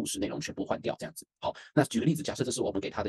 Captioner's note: affirmative sound/pause